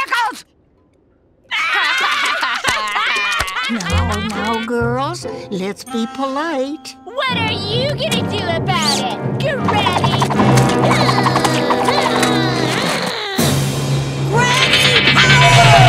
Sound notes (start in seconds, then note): 1.5 laughing; 10.7 grunting